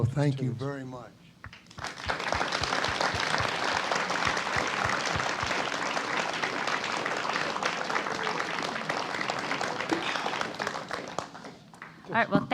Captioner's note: applause